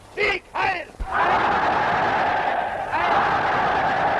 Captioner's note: crowd cheers